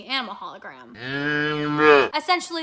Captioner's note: cow mooing